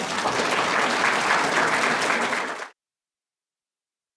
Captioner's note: applause